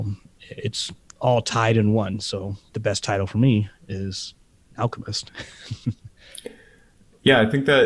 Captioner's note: laughs